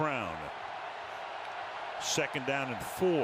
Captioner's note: cheering